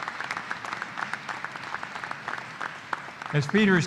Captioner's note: applause